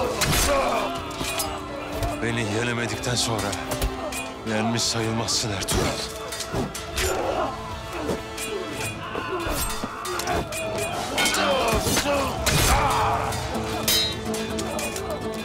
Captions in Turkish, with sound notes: Aaa! Beni yenemedikten sonra yenmiş sayılmazsın Ertuğrul. (Kılıç sesleri) Aaa!